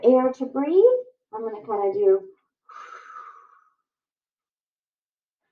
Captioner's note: exhales